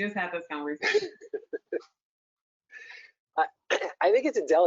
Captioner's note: laughing